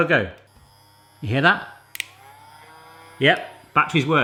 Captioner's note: Smoking Gun buzzing; Smoking Gun buzzing louder